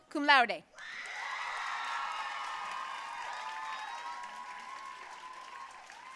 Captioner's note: audience cheering and applauding